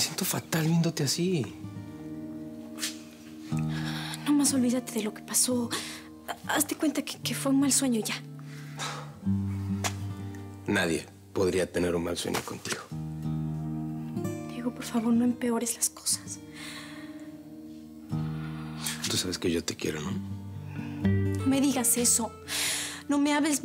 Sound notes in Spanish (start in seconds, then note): 3.9 sollozos